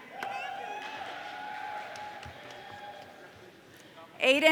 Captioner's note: audience cheering